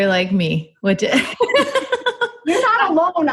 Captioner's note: chuckles